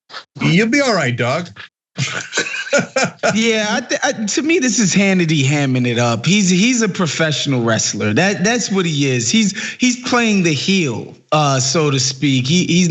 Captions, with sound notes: You'll be all right, dog. [LAUGH] >> Yeah, to me this is Hannity hamming it up. He's a professional wrestler. That's what he is, he's playing the heel, so to speak.